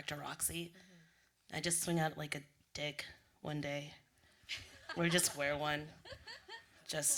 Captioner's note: laughter